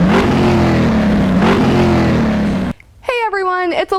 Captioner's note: engine revving